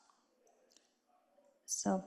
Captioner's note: no audible response